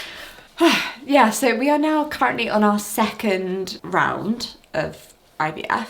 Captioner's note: exhales